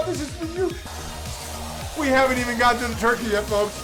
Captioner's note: uptempo synth music; whipped cream sprays